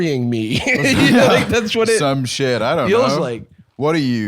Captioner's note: laughs